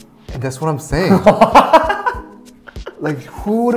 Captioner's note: laughs